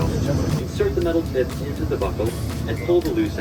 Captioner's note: announcement On Speaker